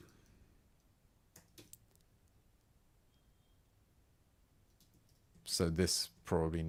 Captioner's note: silence